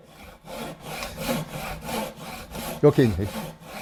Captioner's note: sawing sound